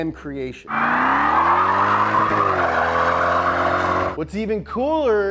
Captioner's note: tires squeal